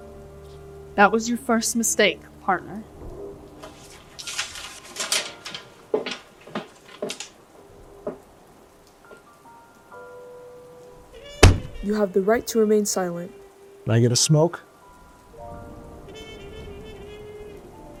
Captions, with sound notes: - That was your first mistake, 'partner.' [paper rustling] [footsteps] [thump] - You have the right to remain silent. - Can I get a smoke?